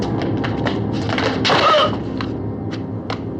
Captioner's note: groans